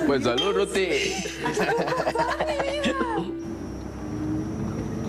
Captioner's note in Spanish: Risas